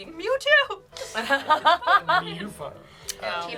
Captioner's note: laughs